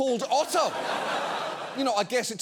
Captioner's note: studio audience laughing